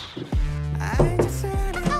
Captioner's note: knock knock